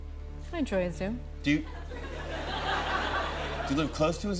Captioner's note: laughter